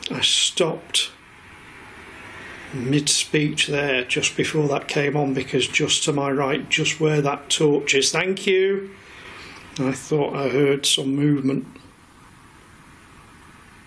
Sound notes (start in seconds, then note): none